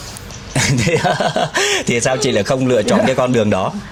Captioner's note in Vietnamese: tiếng cười